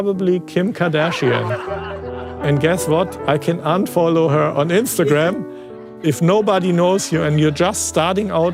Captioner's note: laughter